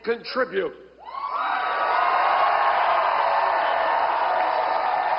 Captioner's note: audience cheers